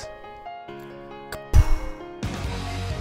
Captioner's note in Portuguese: Poof